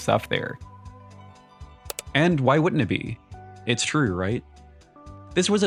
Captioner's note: click Sound